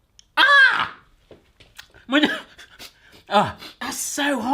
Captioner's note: screams